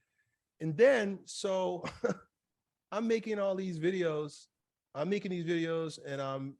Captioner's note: chuckles